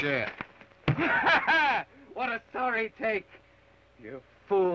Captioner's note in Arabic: يضحك